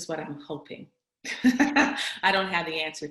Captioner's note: laughs